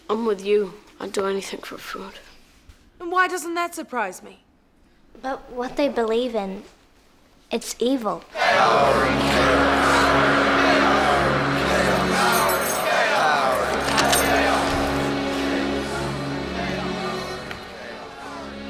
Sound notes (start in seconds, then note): 9.0 chanting; 16.0 soft music